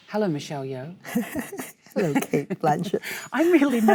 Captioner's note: Michelle laughs